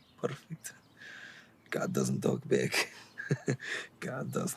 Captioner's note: Radovan chuckles